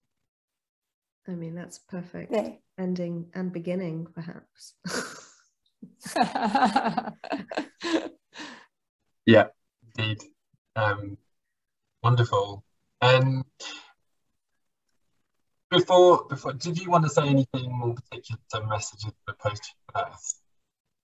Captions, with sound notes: I mean that's a perfect ending and beginning perhaps. [LAUGHS] Yeah, indeed, um, wonderful and before, before did you want to say anything more particular about Messages to a Post-Human Earth?